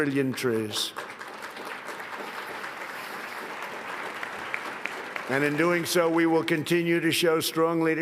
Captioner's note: applause